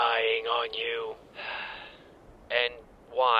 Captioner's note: Wash sighs longer